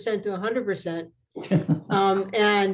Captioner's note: laughter